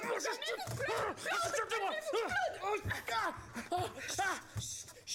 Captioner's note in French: cris de rage